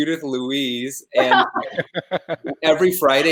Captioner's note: laughing